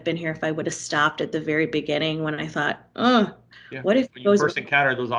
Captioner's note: groans